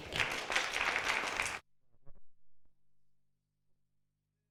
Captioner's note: audience clapping